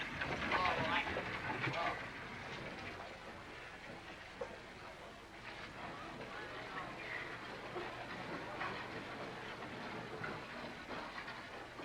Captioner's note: chatter